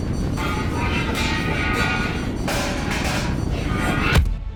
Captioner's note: metal clanging